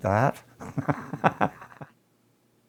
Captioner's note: laughter